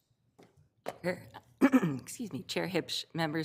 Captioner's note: clears throat